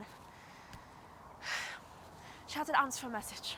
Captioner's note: sighs